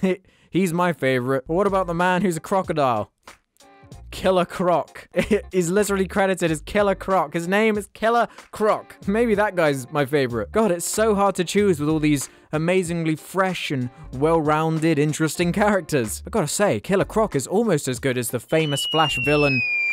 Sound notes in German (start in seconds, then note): 5.2 lacht